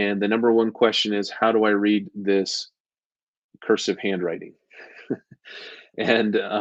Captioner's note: chuckles